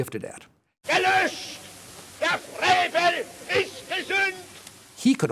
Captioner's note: speaking German